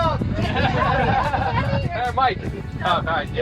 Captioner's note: laughs